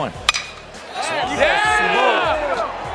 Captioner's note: bat hits ball